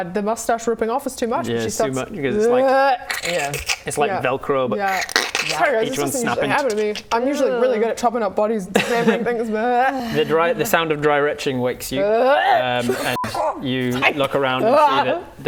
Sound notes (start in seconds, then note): 3.0 riiiip; 12.2 dry heave